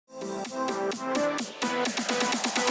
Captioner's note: clap